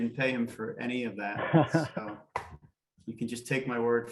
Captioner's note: laughing